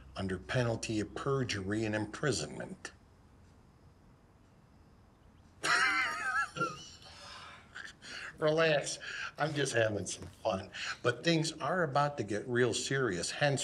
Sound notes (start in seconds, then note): 5.6 laughing